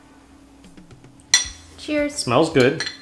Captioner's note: plates clattering